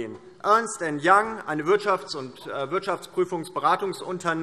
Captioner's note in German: none